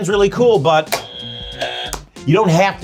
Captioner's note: buzzer buzzing; graphic pops